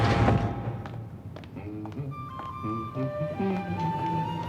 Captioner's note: humming